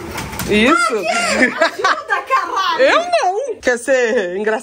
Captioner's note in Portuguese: grita